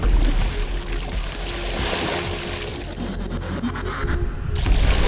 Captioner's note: gasoline splashing; dramatic music